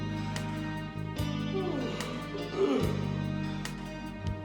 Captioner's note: yawns